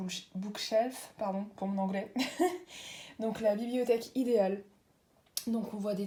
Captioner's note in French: rires